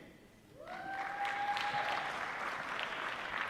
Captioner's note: applause